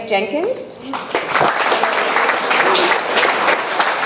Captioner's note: audience applauds